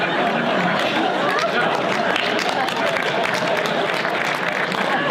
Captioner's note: audience laughter; audience applause